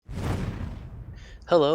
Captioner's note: woosh sound